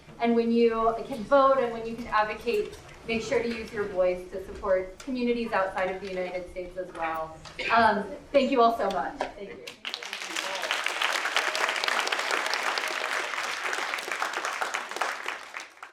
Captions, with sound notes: And when you can vote and when you can advocate, make sure to use your voice to support communities outside of the United States as well. Thank you all so much. (applause)